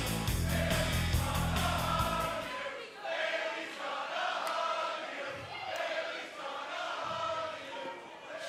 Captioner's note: fans chanting